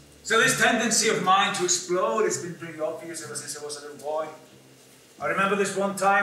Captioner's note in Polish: Po angielsku